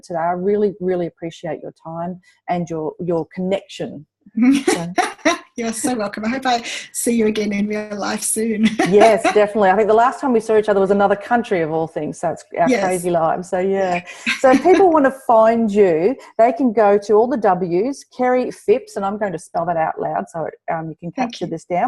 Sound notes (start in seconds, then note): 4.5 laughs; 8.6 laughs